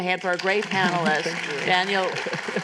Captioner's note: applause